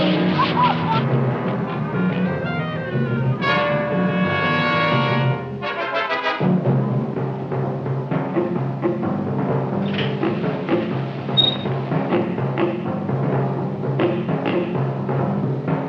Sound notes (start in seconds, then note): 1.9 anticipatory music; 11.3 gate squeaks